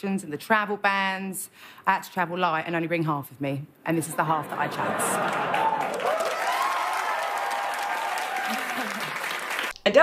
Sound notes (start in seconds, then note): 4.2 audience laughing; 6.6 audience clapping and cheering